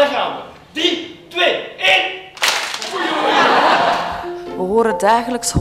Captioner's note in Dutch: gelach